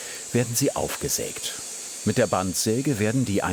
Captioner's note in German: none